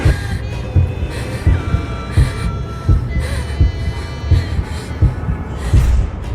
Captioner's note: heavy breathing continues